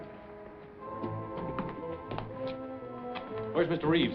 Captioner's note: footsteps